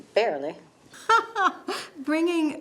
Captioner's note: laughs